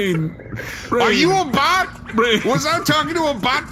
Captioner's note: yelling